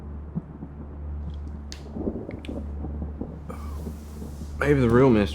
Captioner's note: thunder rumbling